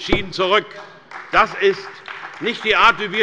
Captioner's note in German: Beifall bei der CDU